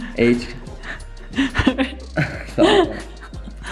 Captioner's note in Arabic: ضاحكًا